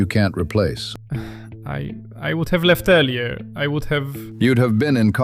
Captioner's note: stammers